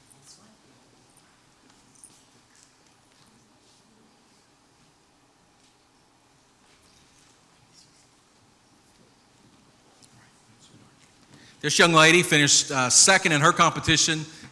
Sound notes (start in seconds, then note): 1.8 indistinct background chatter